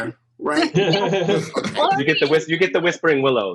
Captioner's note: all laughs